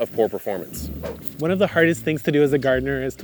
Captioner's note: air whooshing